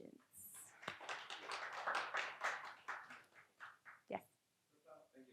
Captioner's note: audience applauds